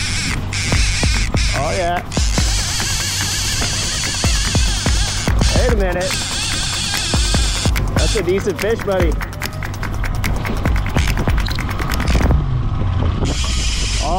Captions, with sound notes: - Oh yeah. Wait a minute. That's a decent fish, buddy. (rhythmic clapping)